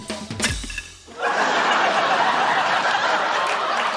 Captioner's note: laughter